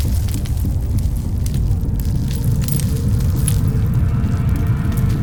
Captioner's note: rocks clattering; cave rumbling